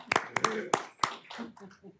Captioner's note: applause